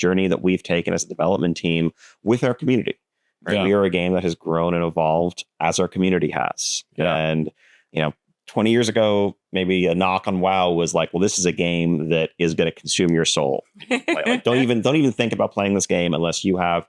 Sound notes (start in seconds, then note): 13.8 laughs